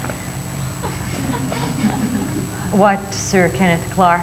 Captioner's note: audience laughing